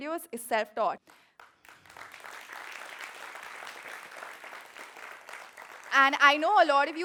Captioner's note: applause